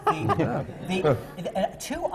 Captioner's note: laughter from the panel